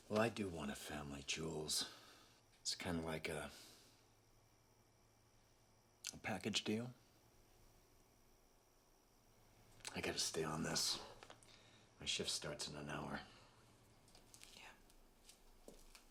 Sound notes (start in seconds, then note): none